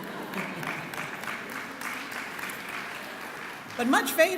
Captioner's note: laughing and clapping